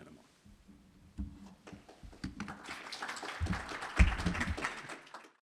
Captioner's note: applause